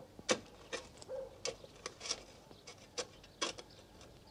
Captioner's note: bow-wow, thud